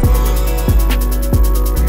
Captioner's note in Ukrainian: М-м